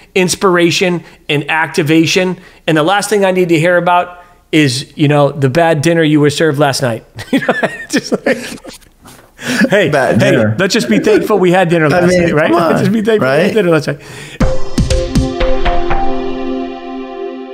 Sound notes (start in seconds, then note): 7.2 laughing; 14.4 upbeat music